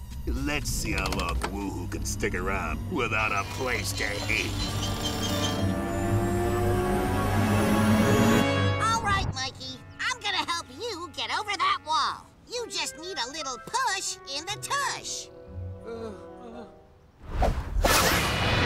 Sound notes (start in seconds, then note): 6.1 whirring; 15.8 whimpers